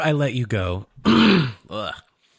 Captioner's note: clears throat